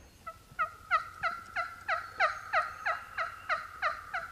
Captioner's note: turkey call yelps